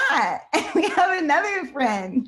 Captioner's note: laughs